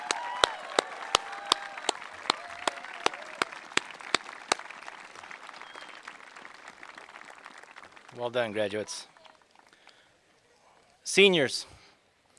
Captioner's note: applause